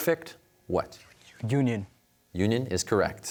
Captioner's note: whispers